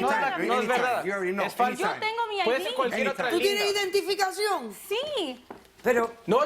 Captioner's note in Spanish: Hablan al unísono